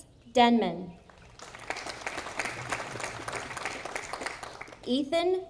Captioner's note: audience applauding